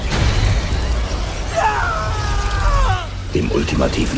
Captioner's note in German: Schreien